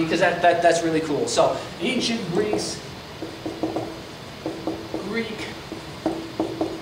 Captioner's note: marker clacks